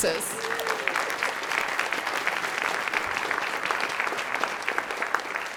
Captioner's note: audience clapping